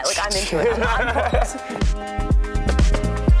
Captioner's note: laughing; upbeat pop music